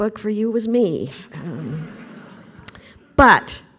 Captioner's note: laughter